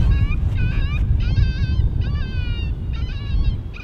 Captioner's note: snow crunching